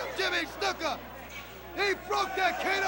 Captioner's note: crowd chatter